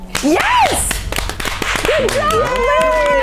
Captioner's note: applause